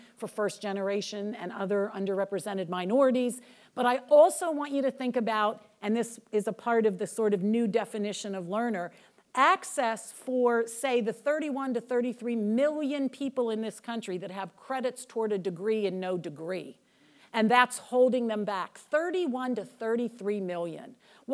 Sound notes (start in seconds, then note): none